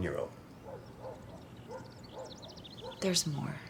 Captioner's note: dog barking